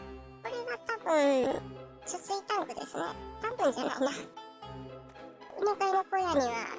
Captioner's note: laughs